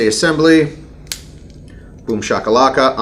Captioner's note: gun clicks